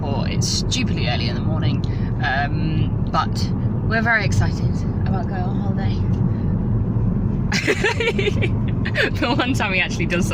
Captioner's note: laughter